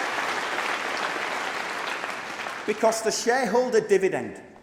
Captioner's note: applause